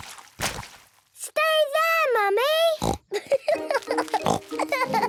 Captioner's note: laughing